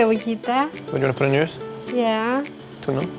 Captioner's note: speaks Spanish